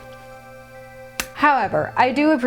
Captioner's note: lip Smack